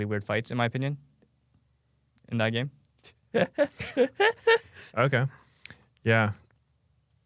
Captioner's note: laughs